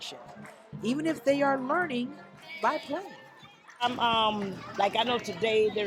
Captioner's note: natsound and b-roll of kids clapping and playing